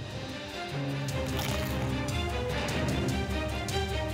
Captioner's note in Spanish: sonido crujiente al morder la cebolla